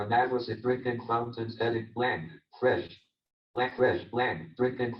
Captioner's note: JAWS speaking disjointedly